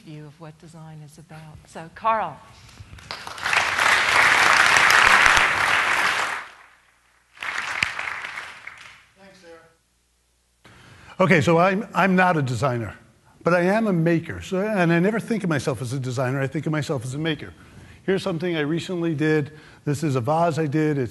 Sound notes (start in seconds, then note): 2.9 applause